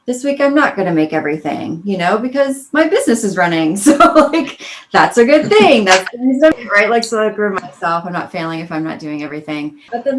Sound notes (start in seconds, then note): 5.2 laughs